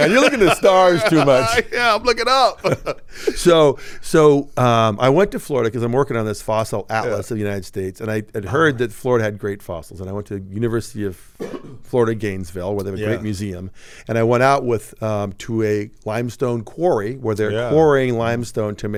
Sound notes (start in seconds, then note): 0.0 laughing